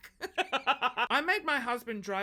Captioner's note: laughs